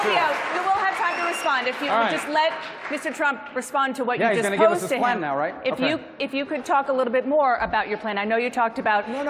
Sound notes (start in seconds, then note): 0.0 cheering